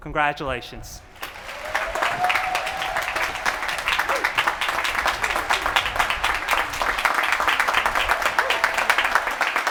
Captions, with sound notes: Congratulations. [APPLAUSE]